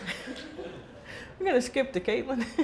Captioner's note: laughing